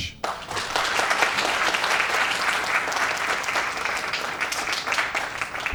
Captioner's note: applause